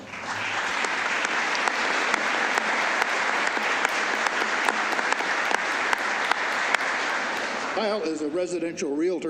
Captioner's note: applause